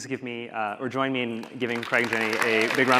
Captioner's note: audience applauding